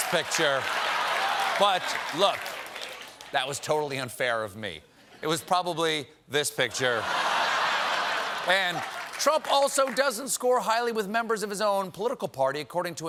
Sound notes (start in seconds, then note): 6.8 laughter